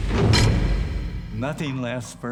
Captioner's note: door latches